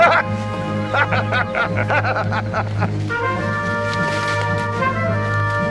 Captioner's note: La risa